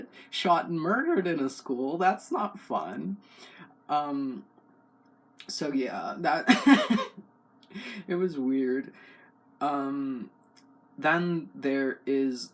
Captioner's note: laugh